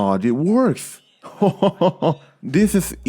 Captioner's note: laughs in satisfaction